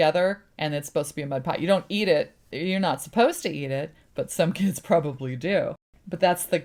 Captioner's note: laughs